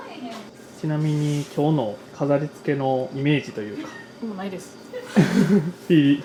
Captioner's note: laughs